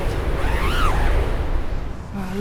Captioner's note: zipper